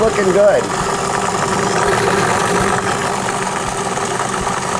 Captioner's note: humming